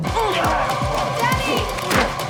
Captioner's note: grunting